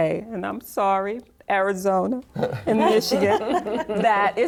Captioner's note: laughter